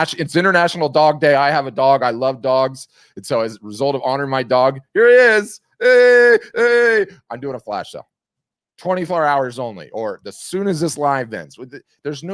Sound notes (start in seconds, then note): 5.7 yelling